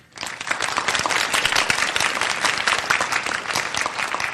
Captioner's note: applause